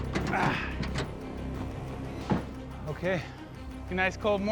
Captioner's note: groans